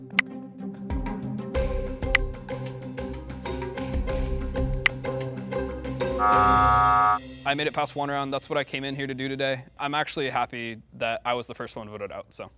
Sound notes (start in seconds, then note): 0.1 click; 5.1 click; 6.2 buzzer sounds